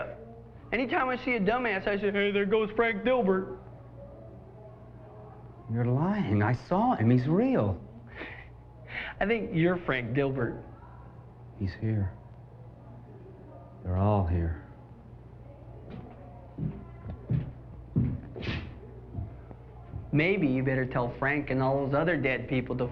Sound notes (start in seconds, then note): 7.7 snickers